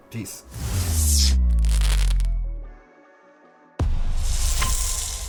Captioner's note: electricity sparking